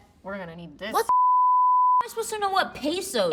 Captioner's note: beeps